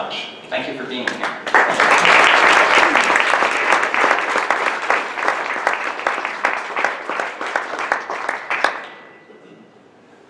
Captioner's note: audience clapping